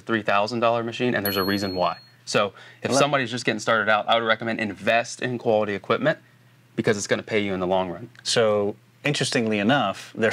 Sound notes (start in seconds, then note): 1.2 bell dinging